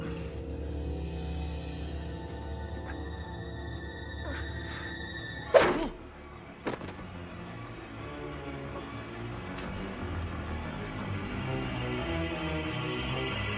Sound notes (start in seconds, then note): 0.0 unsettling music intensifies; 5.5 shovel cracks